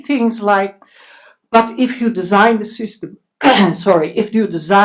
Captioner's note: clears throat